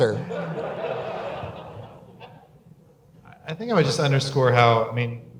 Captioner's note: audience laugher